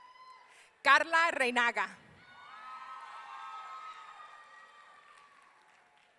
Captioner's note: audience cheering